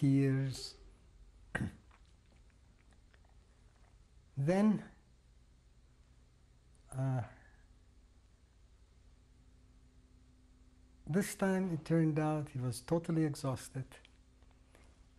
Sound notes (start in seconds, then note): 7.3 pauses for 6 seconds